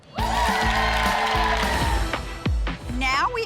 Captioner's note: ladies cheering